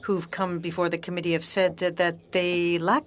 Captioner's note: speaking French